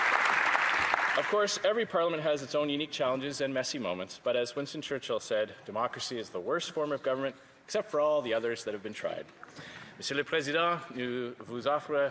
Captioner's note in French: applaudissements